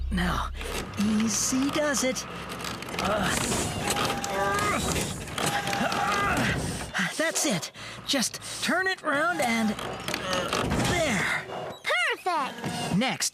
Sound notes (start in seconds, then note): 4.1 straining; 10.8 grunting